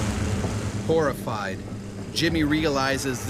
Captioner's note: voiceover